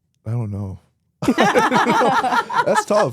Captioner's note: both laugh